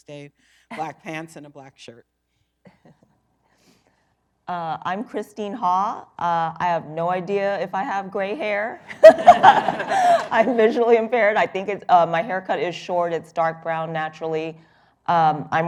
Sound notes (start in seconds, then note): 8.9 laughter